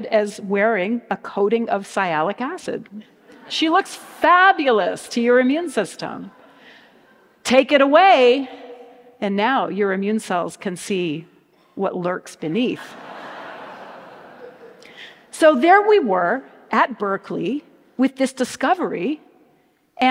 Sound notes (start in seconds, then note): 12.8 audience laughs